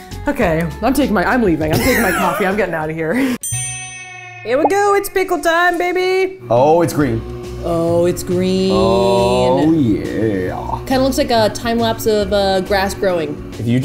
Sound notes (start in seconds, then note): 3.4 bell dings